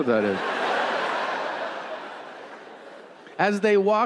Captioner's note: audience laughing